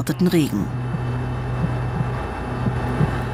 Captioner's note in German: Töne des Herzklopfens